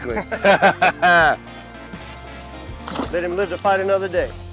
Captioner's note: men laughing